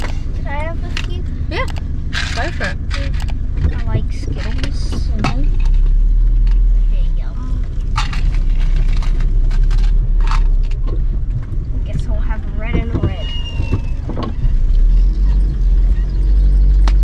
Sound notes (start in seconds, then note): 7.9 lolly container rattles more